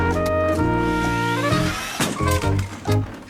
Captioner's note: metal banging; tires screeching; metal banging